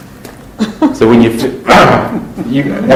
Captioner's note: laughter